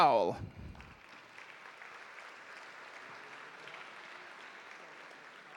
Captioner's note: audience applauding